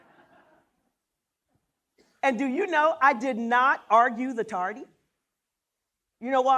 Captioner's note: laughter